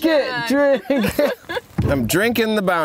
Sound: laughing

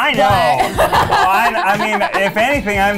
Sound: laughs

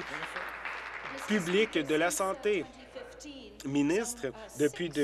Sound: applause

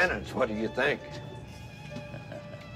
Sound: <i> chuckles</i>

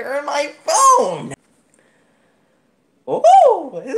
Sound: insert more laughing

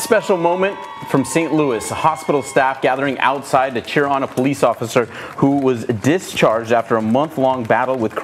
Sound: applause

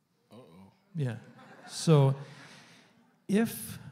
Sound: audience murmuring, quiet laughter

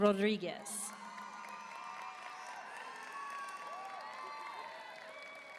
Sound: audience cheering and applauding

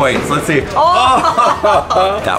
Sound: laughs

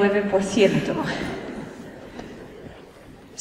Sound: laughter

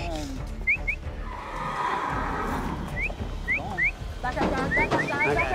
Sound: whistling, horse neighing

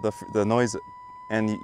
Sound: locator buzzing loudly now; electromagnetic line locator starts buzzing again; locator buzzing sound grows louder

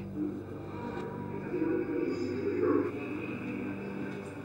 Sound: muffled voice

